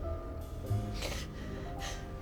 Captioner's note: sniffles